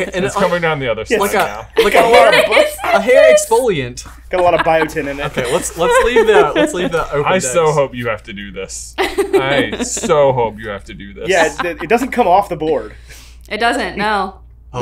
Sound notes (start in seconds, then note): 9.0 laughs